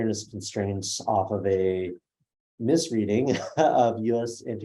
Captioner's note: laughs